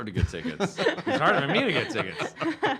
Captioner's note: laughing